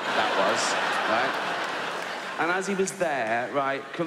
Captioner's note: audience laughs